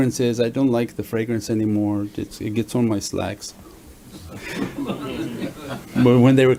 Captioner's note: everyone laughs